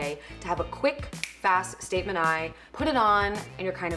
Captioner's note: snaps